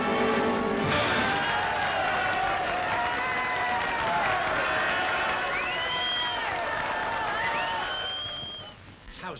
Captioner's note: cheering & applause